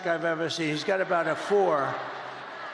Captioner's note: crowd booing